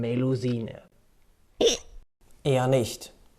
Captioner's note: hic